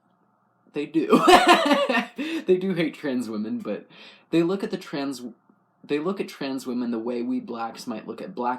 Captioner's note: laugh